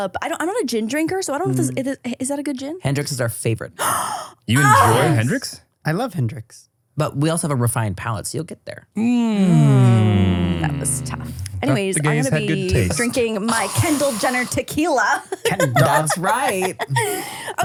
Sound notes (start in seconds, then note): 4.6 gasps